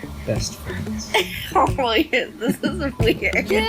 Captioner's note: laughs